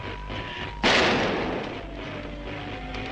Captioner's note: weapon fires; dramatic music